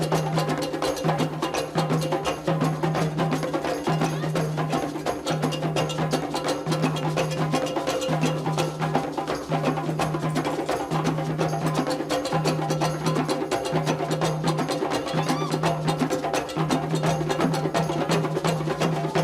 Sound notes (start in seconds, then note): 3.9 dancers exclaiming; 15.0 dancers cheering